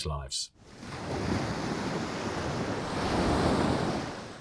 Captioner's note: waves sloshing